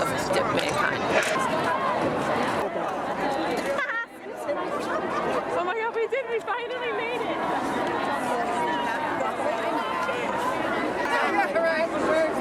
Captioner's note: background chatter